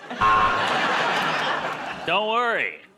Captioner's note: buzzer